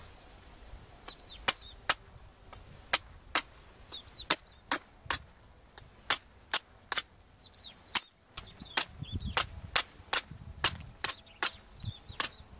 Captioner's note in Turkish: Kesme sesi